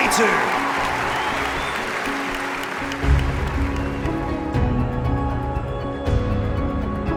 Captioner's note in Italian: applausi e musica intensa